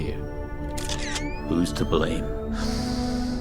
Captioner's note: camera clicks